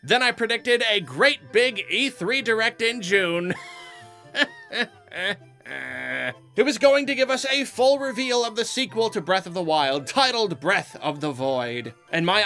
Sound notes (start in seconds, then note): 5.6 laughs